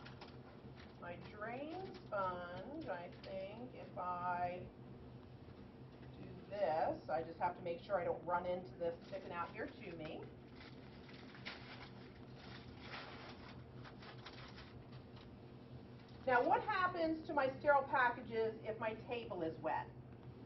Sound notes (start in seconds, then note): 0.0 unwrapping; 12.2 unwrapping